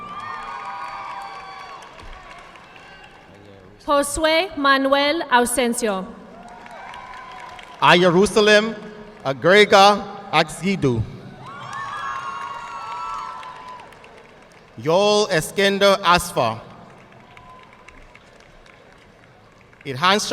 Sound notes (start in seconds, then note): 0.0 audience clapping; 6.3 audience cheering and applauding; 11.4 audience clapping; 17.2 audience clapping